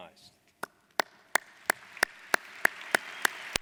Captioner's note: applauding